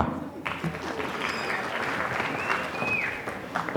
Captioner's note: applause